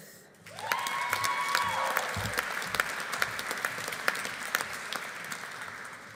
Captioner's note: audience applauding; audience cheering